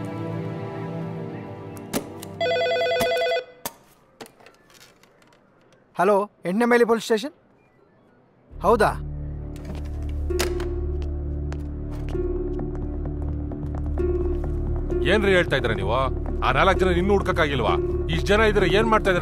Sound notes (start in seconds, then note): 2.4 phone rings; 15.2 footsteps sound